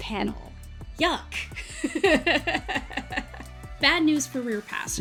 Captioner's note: laughs